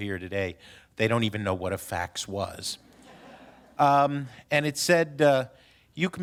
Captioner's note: laughter